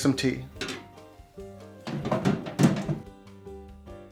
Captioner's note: clunk